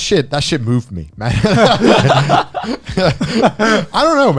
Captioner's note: both laughing